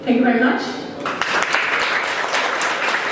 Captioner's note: applause